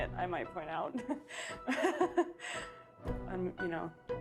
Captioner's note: laughs